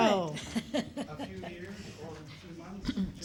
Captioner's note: laughter